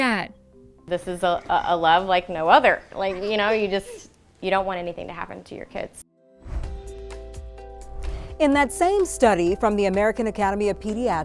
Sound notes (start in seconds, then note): 6.1 gentle music; 6.4 air whooshing